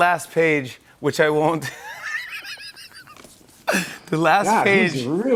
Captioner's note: laughing